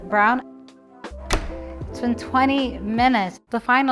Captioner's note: oven door closes